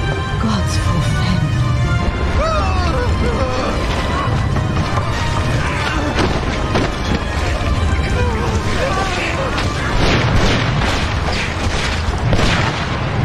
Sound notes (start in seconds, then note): 2.3 panicked yelling; 8.6 gunshots